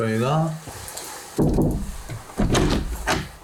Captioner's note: knock knock